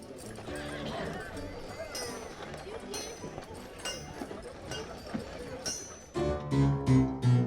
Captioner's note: people chattering; faint saloon music; upbeat saloon music